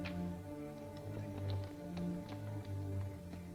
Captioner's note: hoofbeats in distance